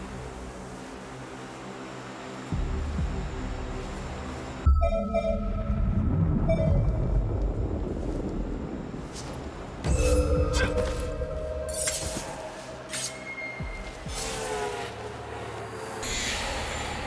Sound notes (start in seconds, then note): 0.0 ominous music; 4.7 beeping; 8.3 ominous music